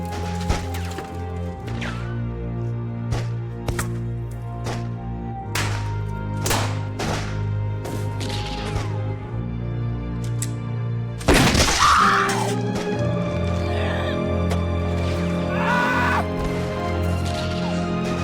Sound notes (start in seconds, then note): 0.2 gunshots; 10.0 Delilah screams; 15.4 Jack screams